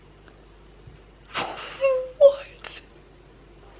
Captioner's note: laughs in disbelief